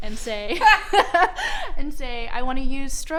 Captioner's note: laughing